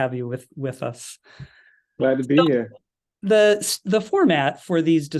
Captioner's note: laugh